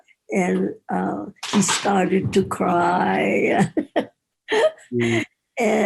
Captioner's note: laughs